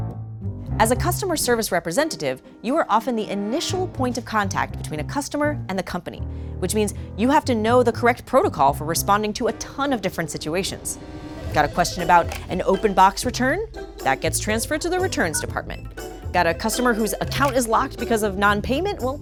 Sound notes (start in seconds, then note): 11.9 phone rings; 15.2 button beeps; 16.5 phone rings